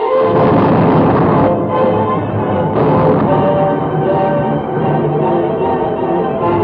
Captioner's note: dramatic music; suspenseful music; explosions booming